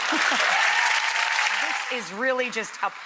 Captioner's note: clapping